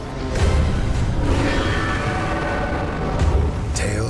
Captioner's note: screeching roar